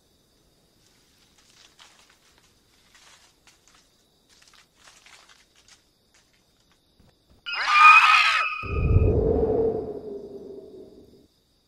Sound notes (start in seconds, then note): 7.4 birds screeching